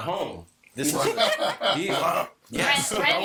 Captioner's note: both laughing